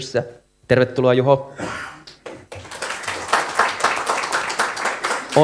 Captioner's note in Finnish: Aplodeja